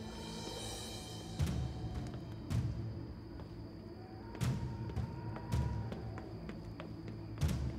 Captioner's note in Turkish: Rüzgâr sesi